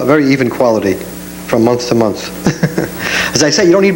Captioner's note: chuckles